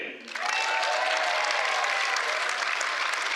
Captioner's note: cheers